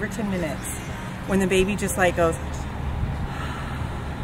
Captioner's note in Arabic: يتنهد